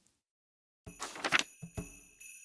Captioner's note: page turn